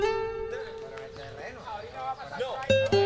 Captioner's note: chattering in Spanish